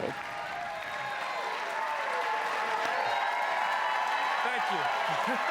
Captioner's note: cheering and applause